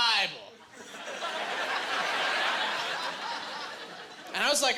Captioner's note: laughing